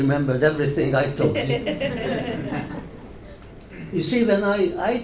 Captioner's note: audience laughs